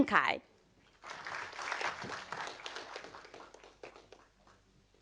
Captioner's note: audience applauding